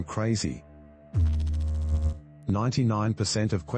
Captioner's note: electrical noise